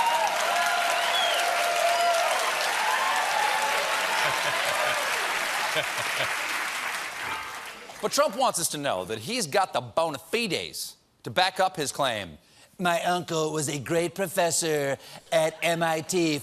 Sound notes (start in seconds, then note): 0.0 cheers and applause